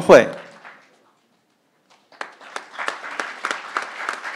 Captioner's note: crowd applauding